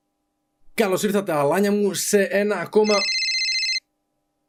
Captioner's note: cell phone rings